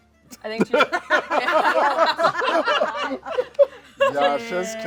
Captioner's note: laughter